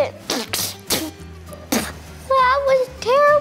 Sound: girl spitting

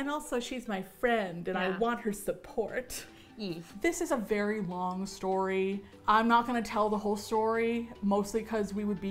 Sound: with lisp

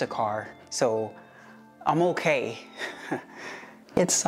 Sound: nervous laugh

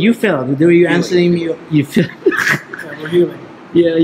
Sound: chuckles

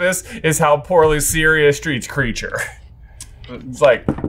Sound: chuckles

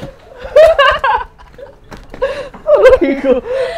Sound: laughs

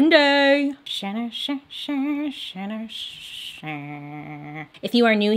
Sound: Bailey vocalizing

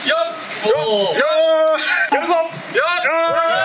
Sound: cheering awkwardly

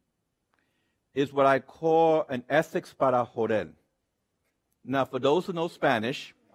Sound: speaks in Spanish

